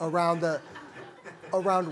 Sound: laughter

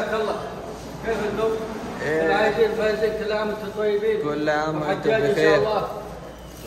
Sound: talking in Arabic

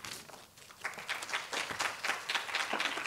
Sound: applause

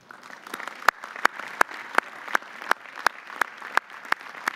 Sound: audience applauding

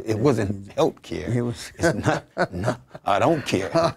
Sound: laughing

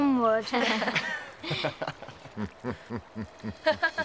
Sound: all laugh

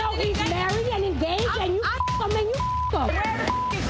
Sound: beep

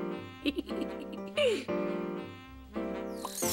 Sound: giggles

